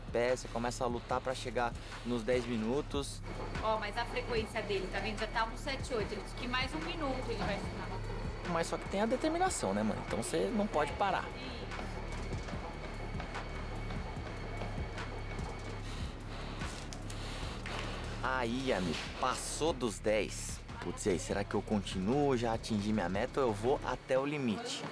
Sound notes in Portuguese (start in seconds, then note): 11.5 hip hop agitado; 15.4 respiração ofegante